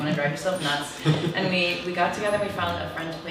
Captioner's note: laughs